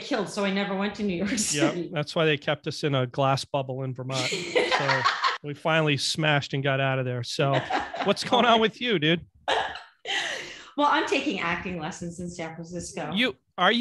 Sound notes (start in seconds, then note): 4.1 laughing